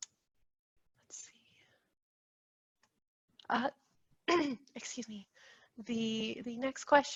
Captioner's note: clears throat